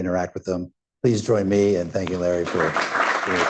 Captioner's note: applause